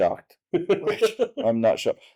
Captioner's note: laughter